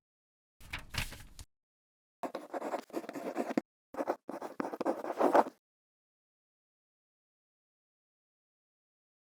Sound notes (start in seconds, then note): 2.2 quill scratching